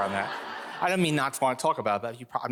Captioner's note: audience laughing